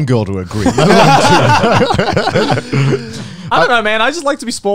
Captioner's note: both laugh